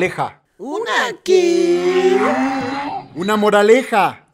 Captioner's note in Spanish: sonido burro